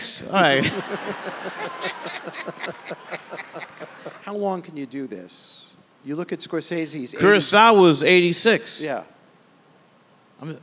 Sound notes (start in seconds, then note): 0.5 audience laughing